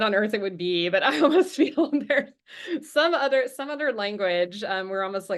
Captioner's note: chuckles